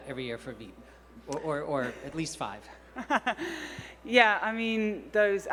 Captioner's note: Phoebe laughs